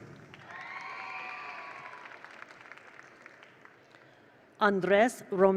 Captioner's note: attendees applaud; attendees cheer